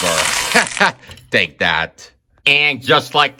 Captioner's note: chuckles